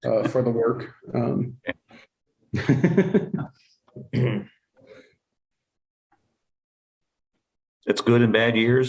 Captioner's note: laughter